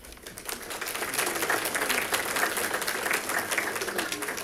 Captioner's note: audience applauding